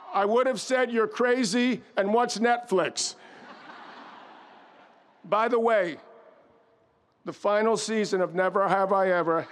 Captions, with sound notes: I would've said, "You're crazy, and what's Netflix?" (audience laughs) By the way, the final season of "Never Have I Ever"